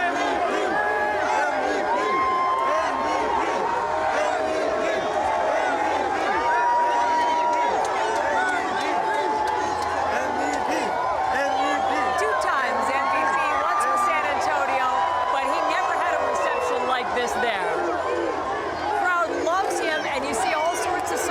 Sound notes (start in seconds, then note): 5.7 chanting